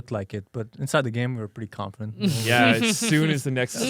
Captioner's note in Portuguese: risos